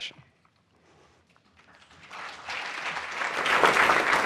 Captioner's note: applause